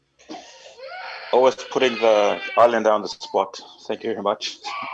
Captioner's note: baby crying